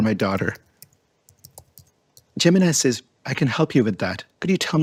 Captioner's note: keyboard clicking